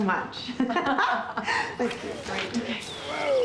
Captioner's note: both laugh